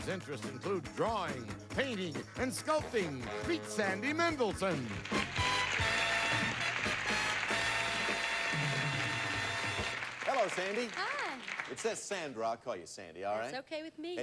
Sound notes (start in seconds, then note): 6.7 audience applauding